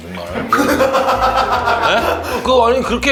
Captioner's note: ha ha ha ha ha ha ha